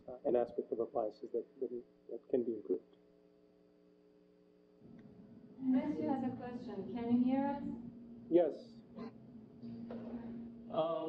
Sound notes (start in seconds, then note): 3.1 pause